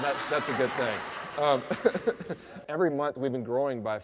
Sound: laughs

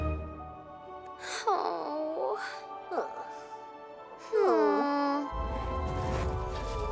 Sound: gentle music; both awing

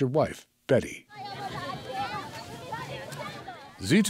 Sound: speaking in foreign language

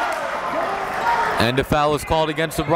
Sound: applauding

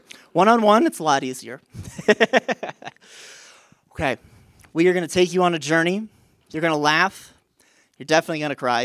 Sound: laughter

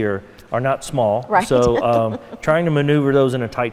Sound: laughing

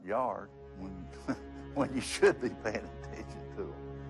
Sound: chuckles

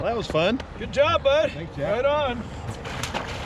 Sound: patting back

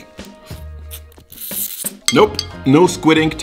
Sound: slurps

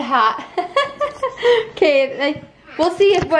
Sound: laughs

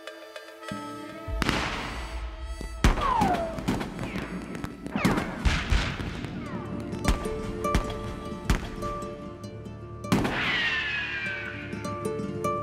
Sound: gunshots

